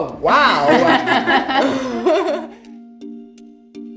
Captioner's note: laughing